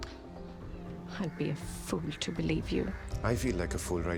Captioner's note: murmurs